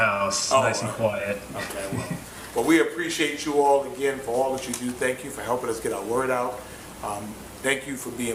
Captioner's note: laughter